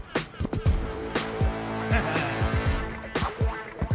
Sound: chuckling

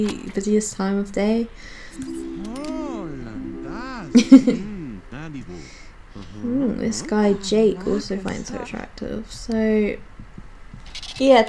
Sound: giggles

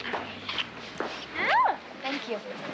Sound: squeals

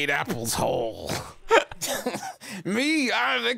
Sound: laughing

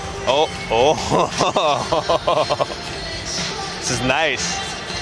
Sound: laughing

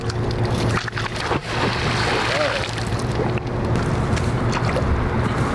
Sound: water splashes

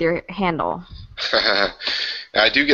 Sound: chuckles

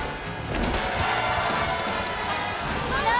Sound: glamorous music; crowd cheering

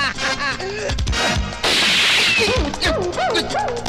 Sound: gun Firing

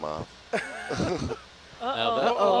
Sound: all laugh

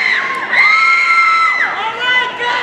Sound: audience cheering

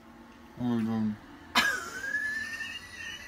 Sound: Ben laughing

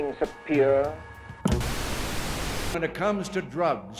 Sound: static

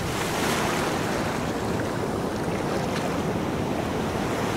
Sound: waves crashing

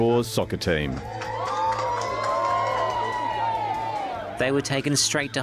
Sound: cheering

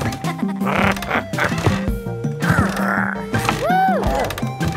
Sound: Cosima giggling; playful music; Big Lizard purring

